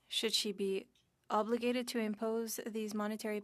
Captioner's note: speaking French